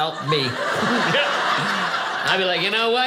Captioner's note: audience laughing